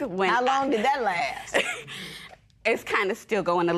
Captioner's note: chuckles